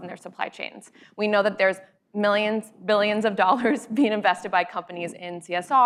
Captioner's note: laughs